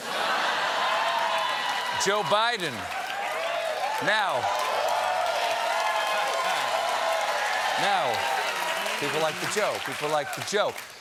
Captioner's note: cheers and applause